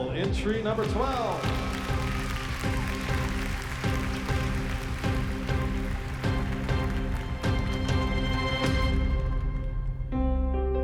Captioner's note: clapping